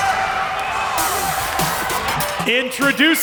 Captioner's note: crowd cheering